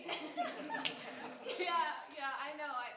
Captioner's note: group chuckling